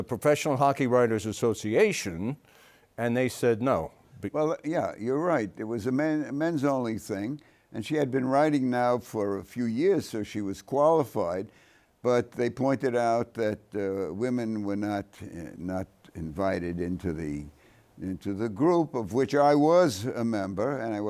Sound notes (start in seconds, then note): none